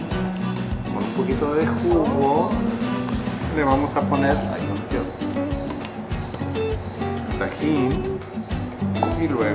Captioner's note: in Spanish